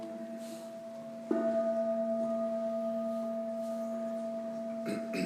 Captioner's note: gong rings